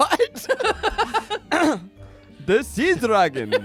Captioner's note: everyone laughs